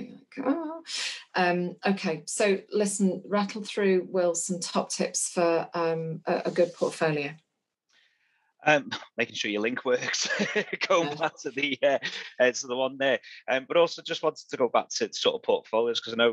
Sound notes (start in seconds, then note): 8.7 laughs